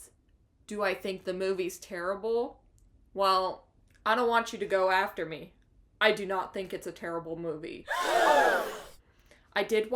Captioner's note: gasp